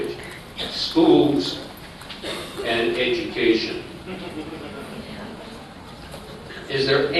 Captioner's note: laughter